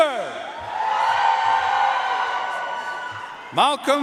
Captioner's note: audience cheering and applauding